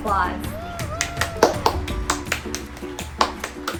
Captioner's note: applause